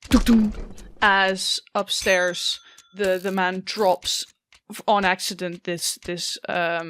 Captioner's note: echoing thumps